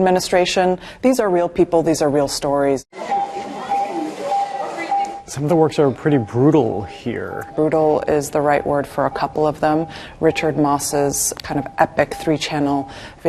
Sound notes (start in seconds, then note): 3.9 hospital equipment beeping